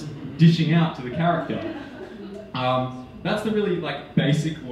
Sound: audience laughing

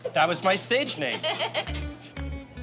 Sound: chuckles

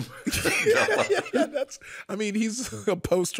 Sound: laughing quietly

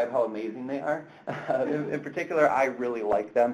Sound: chuckles

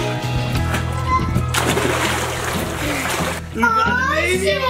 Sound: water splashing

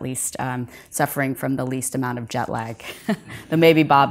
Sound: audience laughs softly

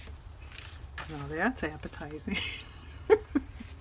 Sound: laughs

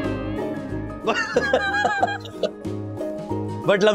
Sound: laughs

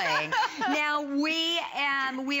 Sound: laughter

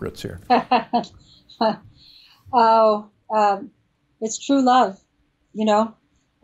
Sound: laughs

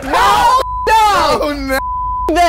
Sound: beep

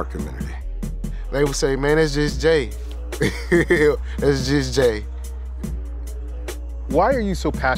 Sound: laughing

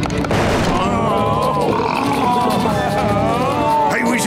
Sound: groaning

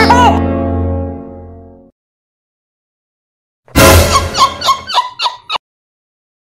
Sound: laughing

